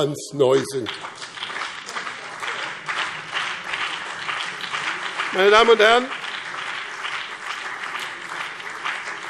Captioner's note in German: Beifall BÜNDNIS 90/DIE GRÜNEN und CDU